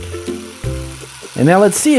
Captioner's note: drill whirring